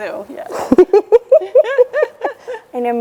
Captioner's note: chuckles